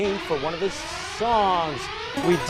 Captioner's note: out of time alarm